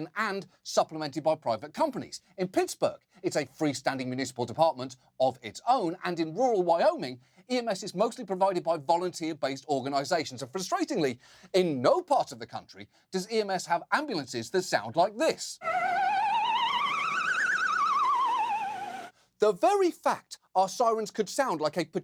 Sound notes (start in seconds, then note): 15.6 playful siren wails